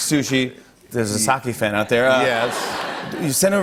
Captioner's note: laughter